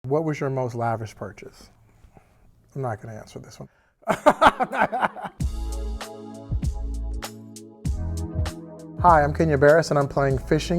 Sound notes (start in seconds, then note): 4.1 laughing; 5.1 slow R&B music